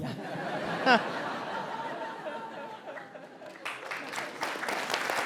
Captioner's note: laughter and applause